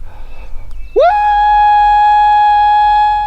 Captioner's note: howls